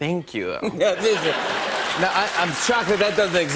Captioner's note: laughter and applause